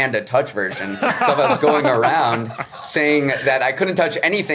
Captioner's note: others laughing